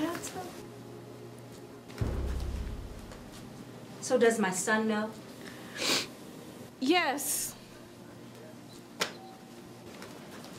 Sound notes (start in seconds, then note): 2.0 dramatic music; 6.4 sniffling